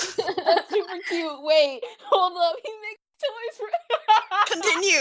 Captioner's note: chorusing ‘awwww’